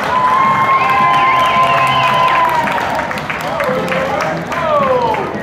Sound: crowd laughter, applause and cheering

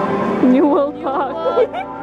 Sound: laughs

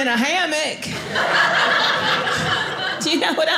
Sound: audience laughing

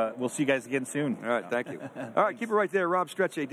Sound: chuckles

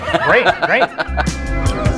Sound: laughing

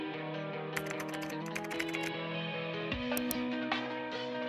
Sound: gentle music; keyboard keys tapping; gentle music

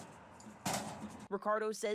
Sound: nats of man hitting food truc

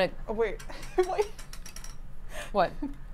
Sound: laughs

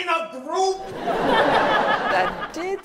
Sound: audience laughs

